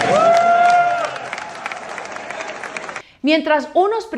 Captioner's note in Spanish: Aplausos